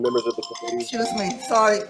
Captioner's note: phone ringing